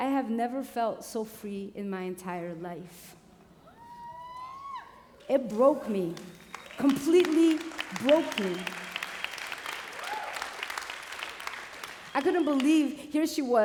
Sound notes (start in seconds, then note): 3.7 cheering; 9.7 applause